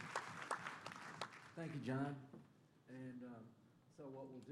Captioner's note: applause